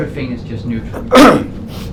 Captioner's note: clears throat